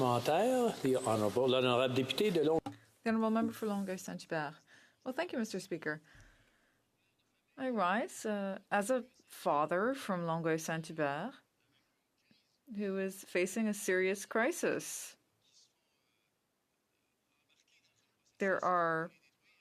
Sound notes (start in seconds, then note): 6.4 speaking French; 8.4 speaking French